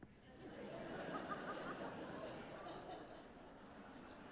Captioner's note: audience laughing